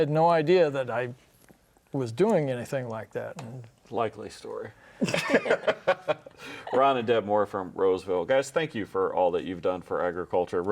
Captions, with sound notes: and they had no idea that I was doing anything like that. - Likely story. (laughs) Ron and Deb Moore from Roseville. Guys, thank you for all that you've done for agriculture.